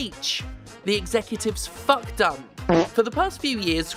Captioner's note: fart